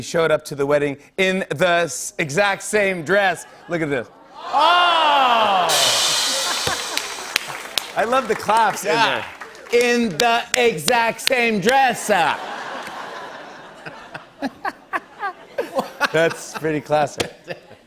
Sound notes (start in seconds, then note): 2.8 audience "Oohs"; 5.6 laughter and applause; 9.0 clapping; 12.1 laughter